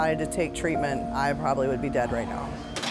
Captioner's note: dishes clattering